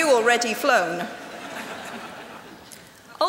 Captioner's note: laughter